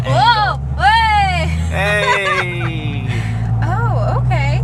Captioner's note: laughs